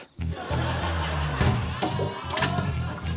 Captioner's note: laughter